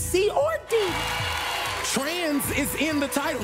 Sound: applause

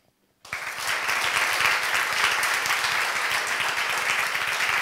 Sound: audience applauds

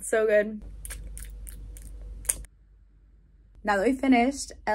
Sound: lip smacking

